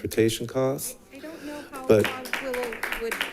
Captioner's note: audience claps